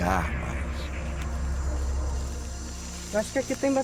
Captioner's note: forest sounds